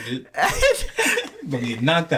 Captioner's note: laughing